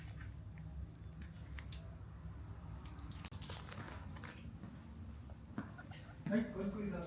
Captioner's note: laughs